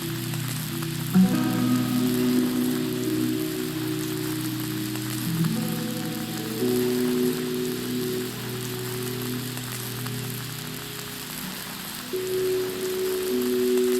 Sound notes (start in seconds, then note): 8.3 food sizzling; 8.3 light music continues